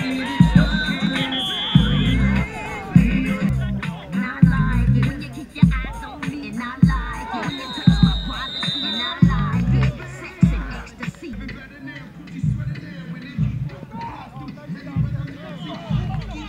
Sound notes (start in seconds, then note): 0.0 whistle blowing; 0.0 cheering; 7.0 whistle blowing